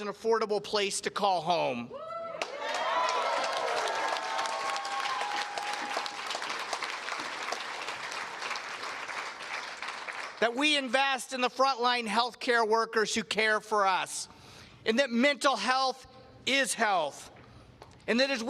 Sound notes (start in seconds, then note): 2.0 cheers and Applause